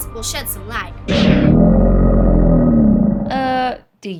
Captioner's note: alligator snarls